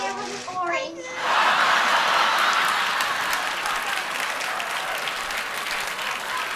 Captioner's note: laughter; applause